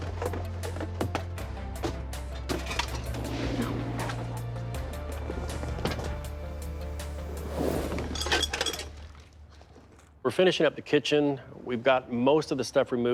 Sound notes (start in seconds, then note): 4.9 objects clattering; 4.9 tense music